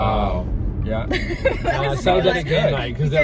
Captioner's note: laughs